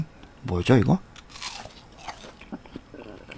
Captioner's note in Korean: 와그작